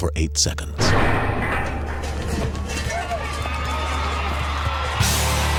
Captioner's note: bells clank over cheering crowd